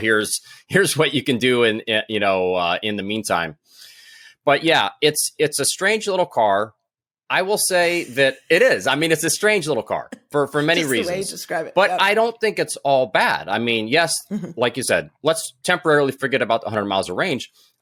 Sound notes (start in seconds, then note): 7.8 laughs